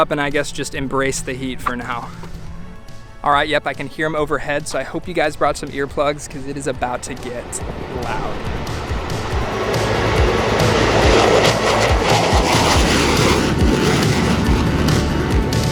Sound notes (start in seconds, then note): 9.4 jet engines roar